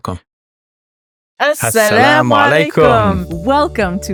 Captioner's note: speaking in a foreign language